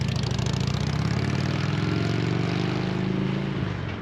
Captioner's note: engine revs